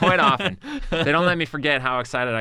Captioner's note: laughs